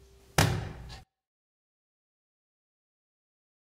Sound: hand thudding

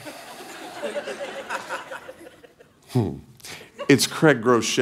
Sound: congregation laughing

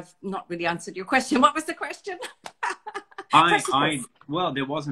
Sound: laughs

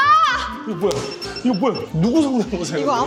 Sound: pow!

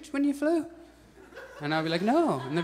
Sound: audience chuckles

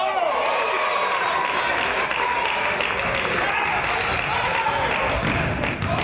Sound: crowd applauds and cheers

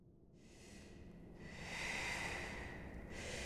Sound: slow breathing

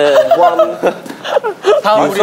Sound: laughing

